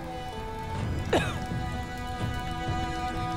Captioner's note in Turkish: Öksürme Sesi